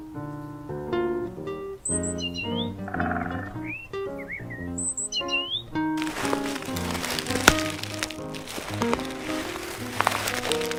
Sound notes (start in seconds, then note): 5.7 character rustling